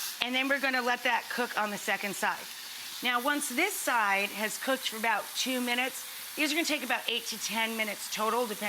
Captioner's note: none